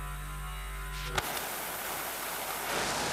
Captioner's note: hissing